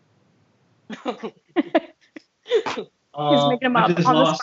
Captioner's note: laughter